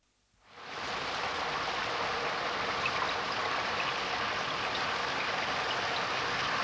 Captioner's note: sound of rain